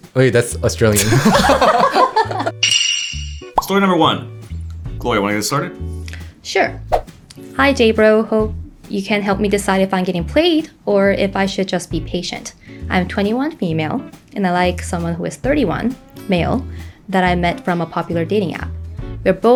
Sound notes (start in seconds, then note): 0.9 group laughing together